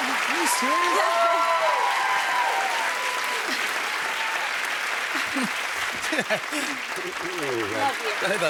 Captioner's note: cheers and applause